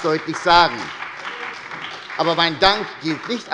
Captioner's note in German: Beifall bei der SPD